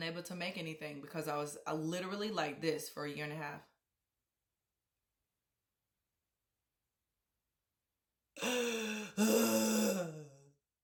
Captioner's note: sobs